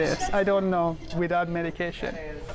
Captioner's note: laughter